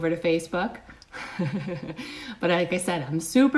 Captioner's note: chuckles